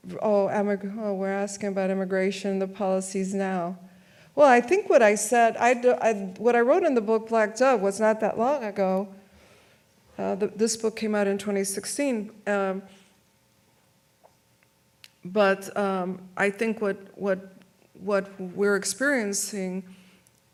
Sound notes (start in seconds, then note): none